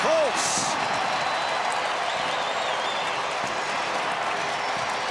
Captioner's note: cheering